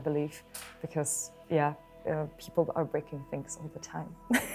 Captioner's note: laughing